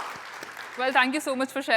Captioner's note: applause